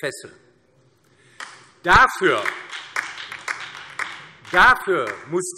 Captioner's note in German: Beifall DIE LINKE